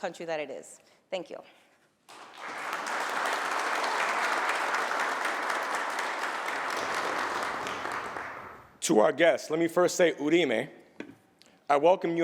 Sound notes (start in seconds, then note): 4.0 applause